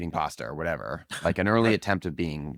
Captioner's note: laughs